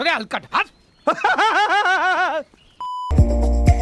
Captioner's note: laughter